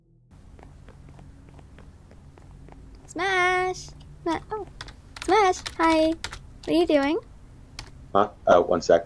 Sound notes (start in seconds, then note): 4.3 typing